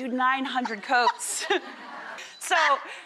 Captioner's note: Rachael laughing